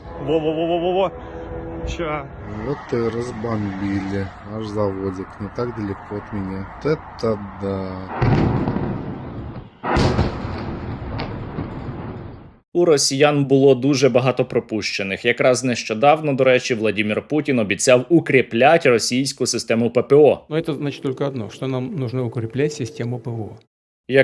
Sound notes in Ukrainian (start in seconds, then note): 8.0 вибух